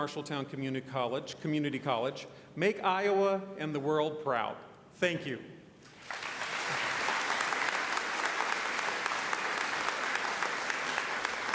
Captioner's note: applause